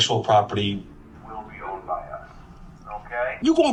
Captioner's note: helicopter and dogs barking